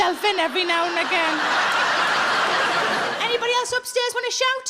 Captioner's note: audience laughs